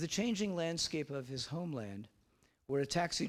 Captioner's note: none